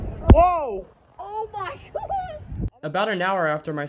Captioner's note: laughing